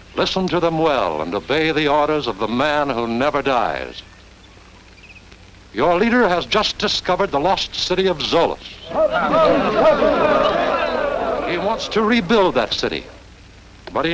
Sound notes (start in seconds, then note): 8.8 cheering